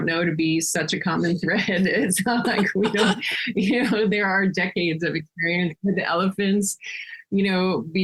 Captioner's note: laughing